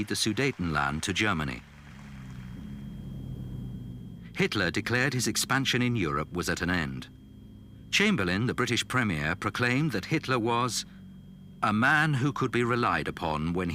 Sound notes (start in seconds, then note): 2.5 engines rumbling